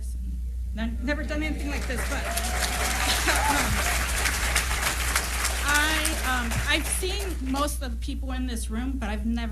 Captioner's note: applause